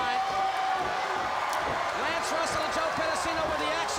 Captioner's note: crowd cheering